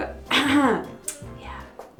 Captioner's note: clears her throat